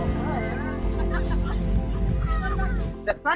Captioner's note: all laughing